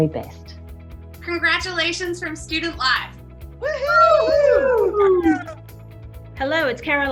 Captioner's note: group cheering